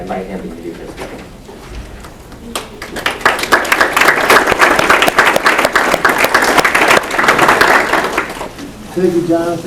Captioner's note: applause